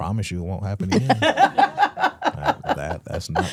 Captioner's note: Stephanie laughing